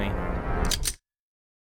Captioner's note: gun cocks